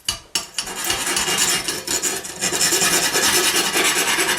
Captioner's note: filing